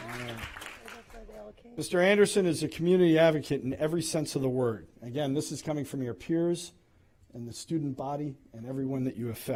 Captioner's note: applause